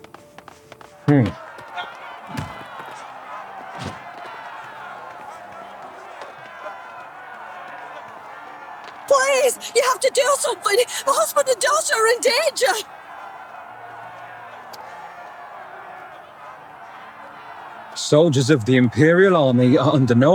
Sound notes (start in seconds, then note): 0.9 crowd cheering; 3.6 footsteps